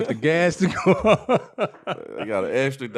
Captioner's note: laughing